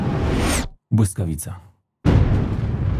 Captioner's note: lightning